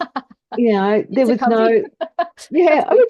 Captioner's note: laughs